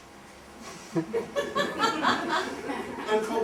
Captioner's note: laughter